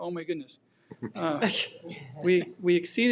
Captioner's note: people laughing